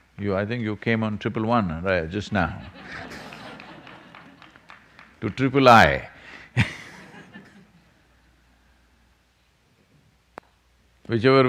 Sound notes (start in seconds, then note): 2.3 laughter; 6.2 laughs